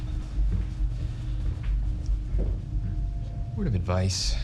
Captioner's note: footsteps thudding